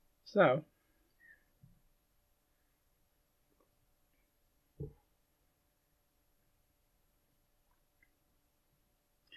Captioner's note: drinking coffee, setting mug down